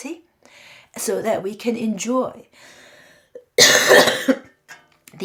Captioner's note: cough